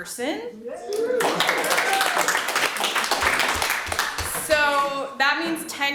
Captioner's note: audience applauds